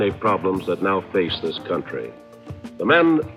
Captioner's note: archival news audio